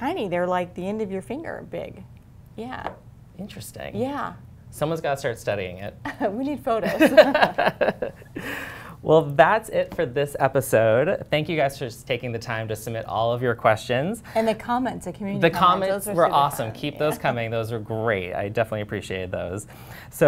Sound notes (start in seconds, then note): 6.8 laughter